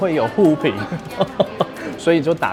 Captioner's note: laughter